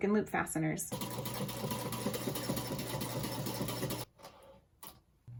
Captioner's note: sewing machine whirring